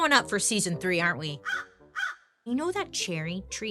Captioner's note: crows cawing